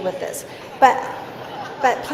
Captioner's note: laughing